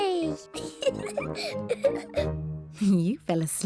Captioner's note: laughs